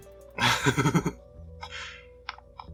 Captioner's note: laughs